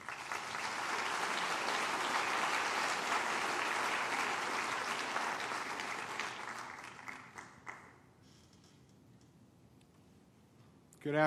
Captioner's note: applause